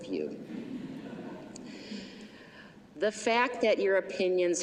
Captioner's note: laughter